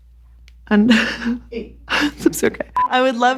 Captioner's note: laughing